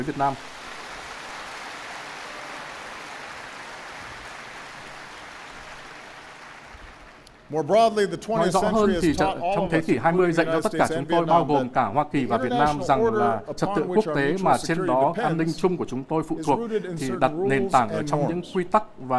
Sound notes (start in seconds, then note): 13.9 applause